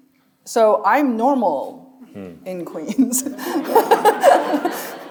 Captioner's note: chuckling; audience laughing